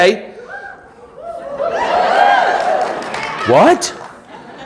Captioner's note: audience cheering